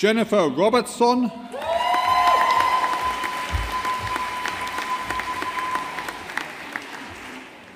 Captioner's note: audience applauding